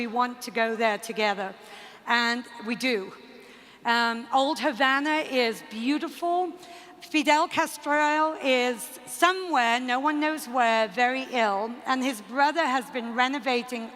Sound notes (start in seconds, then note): none